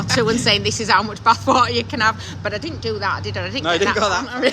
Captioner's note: laughing